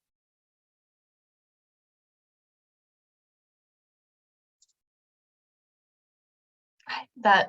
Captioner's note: silence